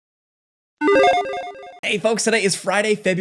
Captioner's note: logo chiming